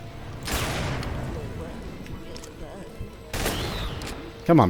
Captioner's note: bam